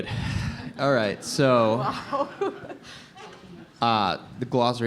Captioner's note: laughs